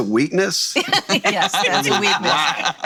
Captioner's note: laughing